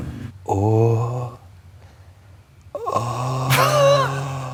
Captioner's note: grunting; laughs